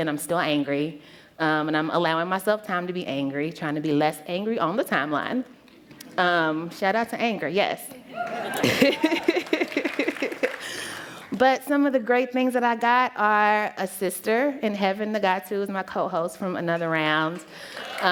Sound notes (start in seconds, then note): 10.6 laughter; 17.6 applause